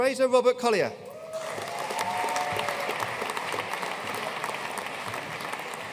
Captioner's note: audience cheering and applauding